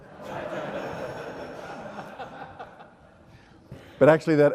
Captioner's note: audience laughs